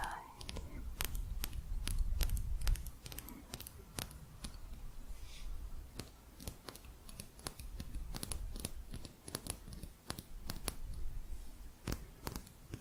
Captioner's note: quick tapping